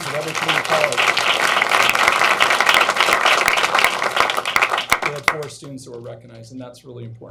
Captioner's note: applause